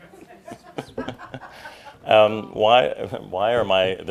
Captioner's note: laughter